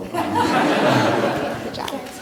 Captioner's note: laughter